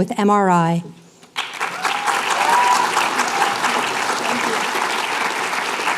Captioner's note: applause